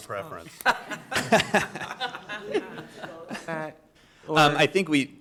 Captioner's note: directors laughing